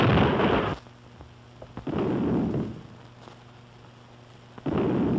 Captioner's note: distant booming